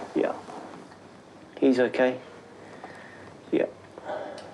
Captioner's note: sighs